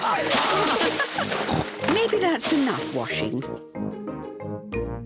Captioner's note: laughs